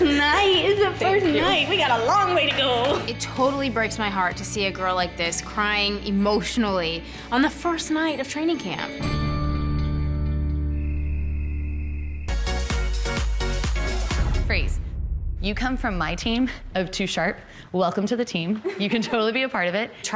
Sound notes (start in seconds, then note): 10.6 crickets chirping; 12.2 upbeat music